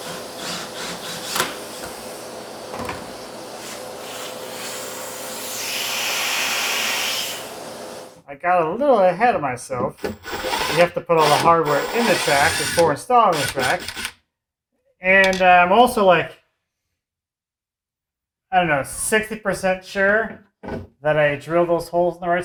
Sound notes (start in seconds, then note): 0.0 drill whirring; 5.9 vacuum whirring